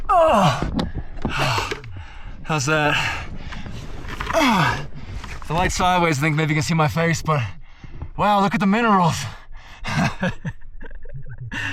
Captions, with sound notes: (grunts) How's that? The light sideways, think maybe you can see my face, but, wow, look at the minerals (laugh).